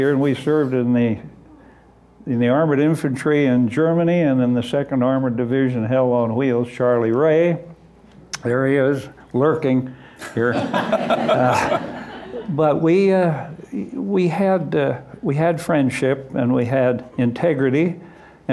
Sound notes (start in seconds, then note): 10.3 laughter